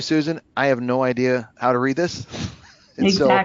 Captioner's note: laughs